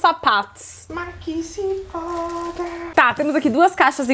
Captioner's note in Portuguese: cantarola